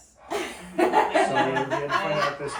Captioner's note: laughing